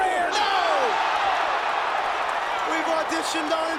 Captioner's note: crowd cheers